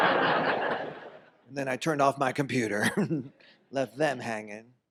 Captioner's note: audience laughs; laughs